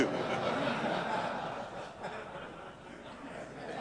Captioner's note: audience laughs